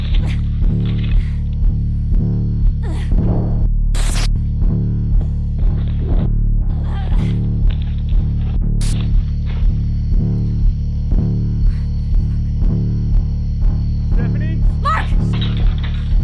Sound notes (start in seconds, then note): 0.0 Stephanie grunting, climbing; 3.1 deep knocking from above; 6.7 Stephanie grunting, climbing through window